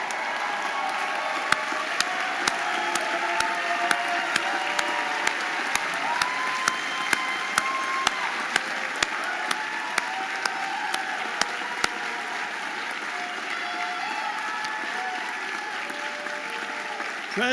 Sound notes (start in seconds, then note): 1.1 audience applauding and cheering